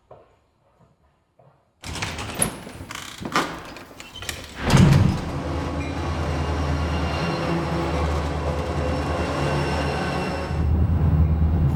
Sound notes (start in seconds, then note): 1.8 door opening and closing; 5.3 train